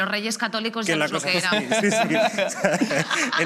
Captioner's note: they laugh